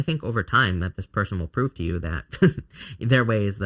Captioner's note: chuckles